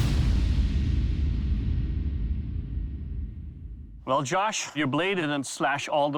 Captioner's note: none